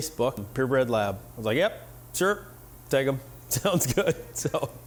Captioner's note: laughing